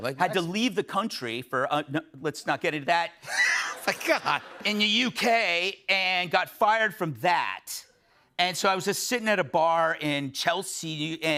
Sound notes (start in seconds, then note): 3.3 laughter